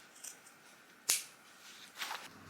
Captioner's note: loud snip